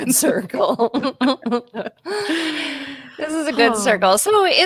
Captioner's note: both laugh